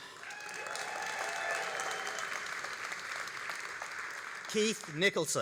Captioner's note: all applauding and cheering